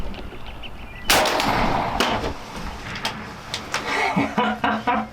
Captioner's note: rifle shoots; laughs